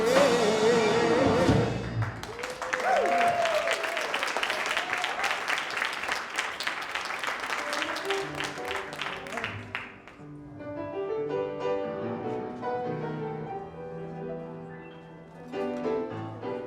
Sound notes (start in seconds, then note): 1.4 audience applauds; 1.8 audience whoops